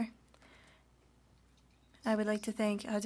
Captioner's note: speaking French